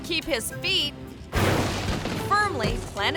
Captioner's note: ballon crashes